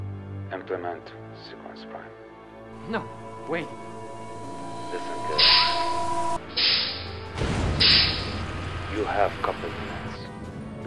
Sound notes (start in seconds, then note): 6.5 whirring, hissing